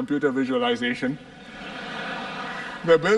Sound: laughter

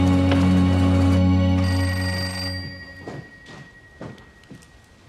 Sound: phone rings

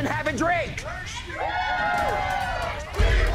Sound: cheers

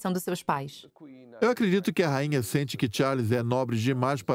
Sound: voiceover

